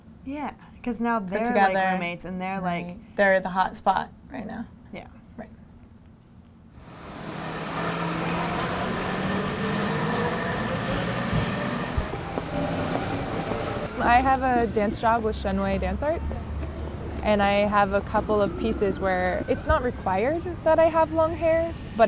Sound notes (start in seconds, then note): 7.8 street sounds